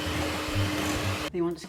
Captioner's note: cake mixer whirring